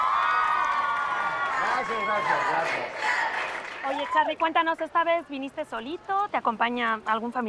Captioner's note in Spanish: Aplausos